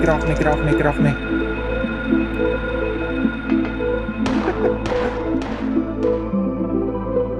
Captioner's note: more Gunshots